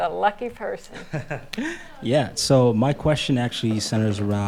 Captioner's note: laughs